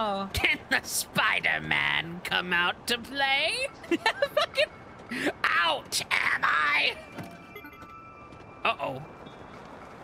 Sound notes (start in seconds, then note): 0.3 Green Goblin Voice; 3.8 laughter; 5.4 Green Goblin Voice; 8.6 Green Goblin Voice